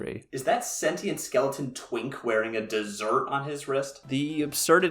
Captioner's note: distant voice